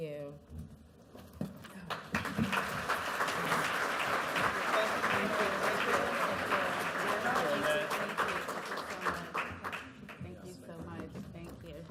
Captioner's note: applause